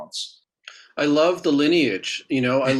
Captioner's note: chuckling